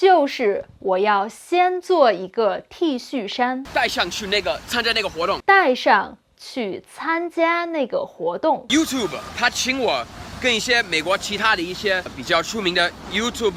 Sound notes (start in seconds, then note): 0.1 speaking in Mandarin